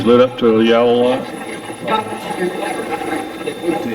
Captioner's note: Steve's Box chatters